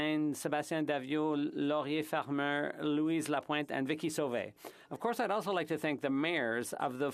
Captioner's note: speaking French